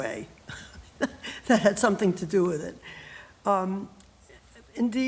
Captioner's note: laughs